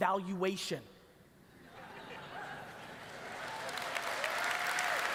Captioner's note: laughter and applause